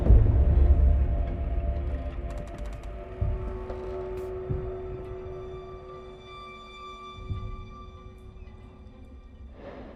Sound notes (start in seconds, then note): 0.1 ominous music; 2.5 floor squeaks; 5.7 ominous music